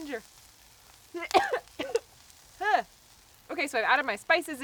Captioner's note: coughing